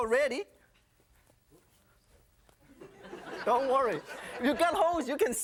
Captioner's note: audience laughing